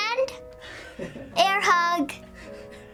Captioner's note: laughs